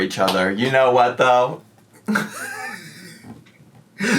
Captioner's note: laughing